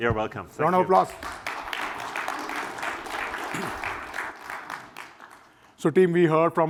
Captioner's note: applause